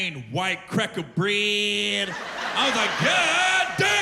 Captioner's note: laughter